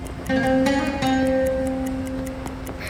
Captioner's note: the bomb is ticking